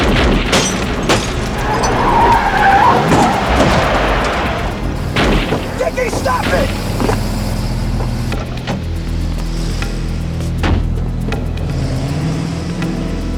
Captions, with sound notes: (gun firing) (tires screeching) (gun firing) - Dickie, stop it! (suspenseful music)